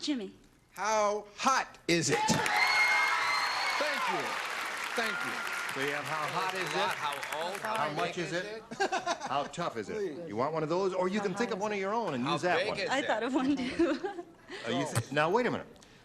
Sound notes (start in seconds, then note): 4.0 cheering and clapping